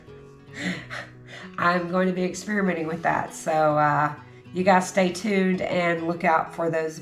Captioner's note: laughs